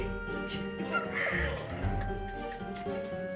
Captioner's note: chuckles